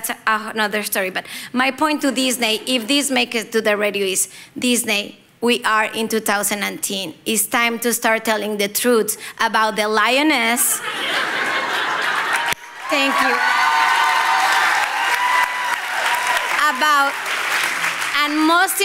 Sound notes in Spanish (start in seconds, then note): 10.7 risas